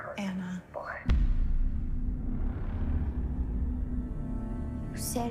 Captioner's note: on answering machine